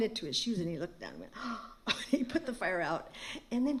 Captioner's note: gasp